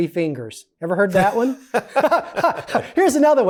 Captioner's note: laughter